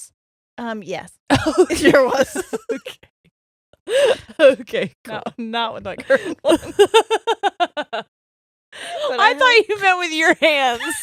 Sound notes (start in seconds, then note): 1.3 both laughing; 1.4 laughs; 5.9 both laughing